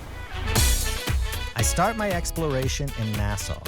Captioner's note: voiceover